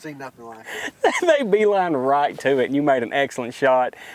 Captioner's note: laughing